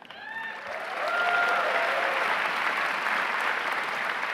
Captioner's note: audience clapping